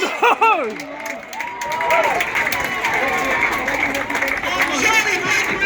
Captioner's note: applause